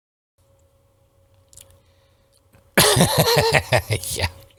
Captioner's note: laughs